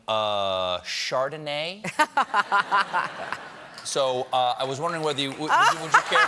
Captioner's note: laughter